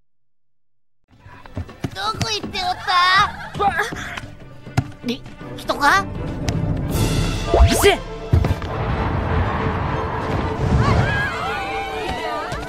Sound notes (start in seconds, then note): 8.5 wind gushes; 10.7 women screams in surprise